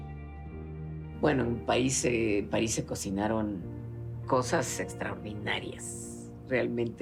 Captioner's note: in Spanish